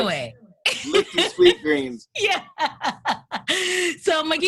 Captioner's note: laughs